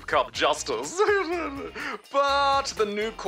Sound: laughs

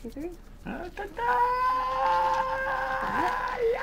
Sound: wincing

